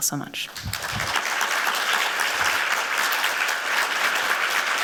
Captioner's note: applause